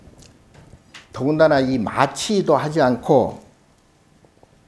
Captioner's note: speaking Korean